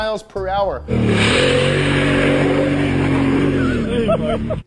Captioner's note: engine revving; laughing